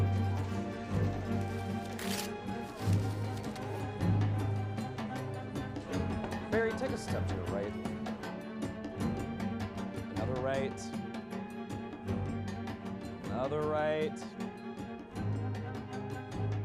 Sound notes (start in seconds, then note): none